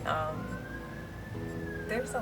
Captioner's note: more sirens